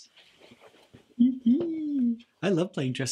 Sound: giggles

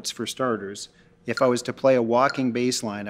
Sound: metronome beeping

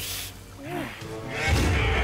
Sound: roars

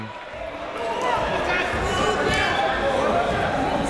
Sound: chatter

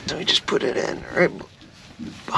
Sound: fish thrashing

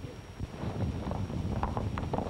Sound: horses running

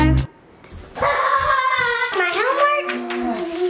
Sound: laughs

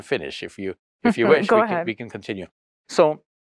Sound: chuckles

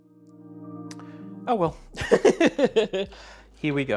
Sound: laughs

